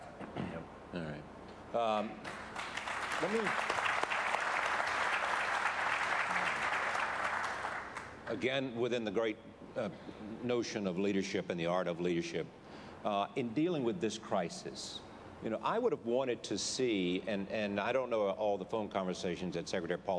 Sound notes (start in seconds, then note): 4.3 applause